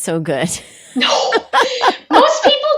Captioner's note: laughing